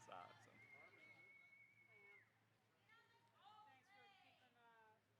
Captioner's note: audience member Whistling